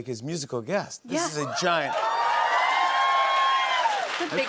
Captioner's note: cheers and applause